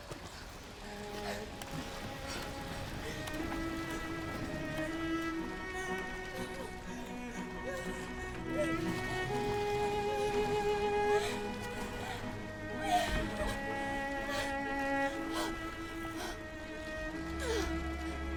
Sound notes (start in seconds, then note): 0.9 somber music; 5.5 Nelly and Sophie gasping